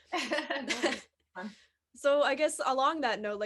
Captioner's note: laughs